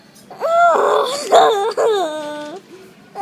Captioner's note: more sighs...breathless